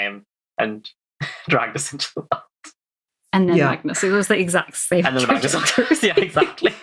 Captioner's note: laughs